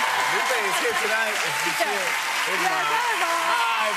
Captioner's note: cheers and applause